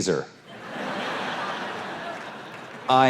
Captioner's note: audience laughs